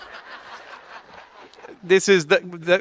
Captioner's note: audience laughing